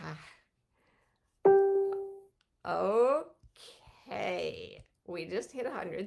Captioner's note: computer dings